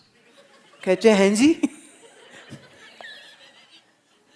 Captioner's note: Guruji laughs